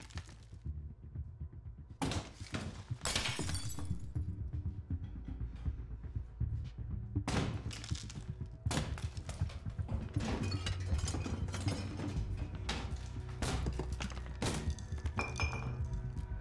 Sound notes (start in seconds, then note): 0.2 very loud banging; 4.1 wall smashing; 8.3 plasterboard breaking; 13.3 very loud banging